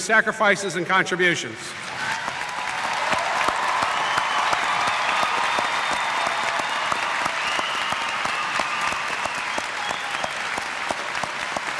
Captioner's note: cheers